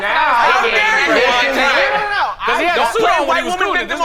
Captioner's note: all chattering